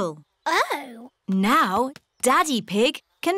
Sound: none

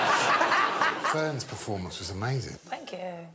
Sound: laughter

